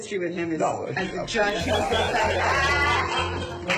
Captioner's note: laughter